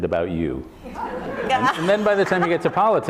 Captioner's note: laughter